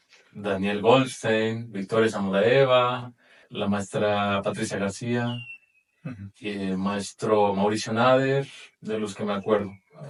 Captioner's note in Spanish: carraspeo